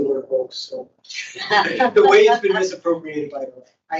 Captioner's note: host laughing